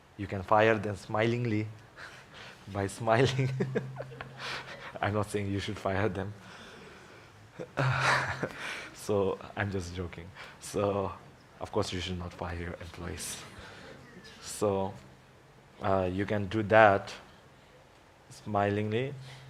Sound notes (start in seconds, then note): 3.2 laughs